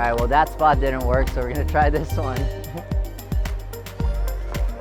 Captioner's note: laughing; pop music